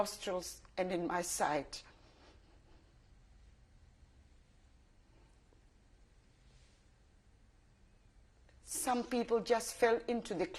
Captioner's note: pauses for 7 seconds